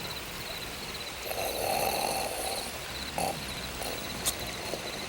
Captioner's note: Bruto snores